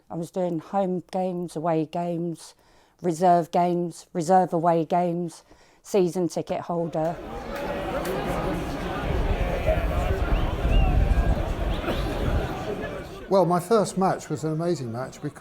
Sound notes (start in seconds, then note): 6.9 fans chattering; 7.1 fans whistling